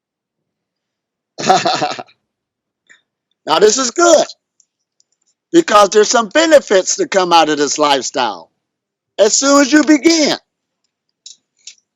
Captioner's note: laughs